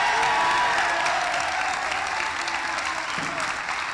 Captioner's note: applause; cheering